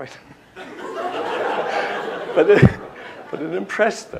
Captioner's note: laughter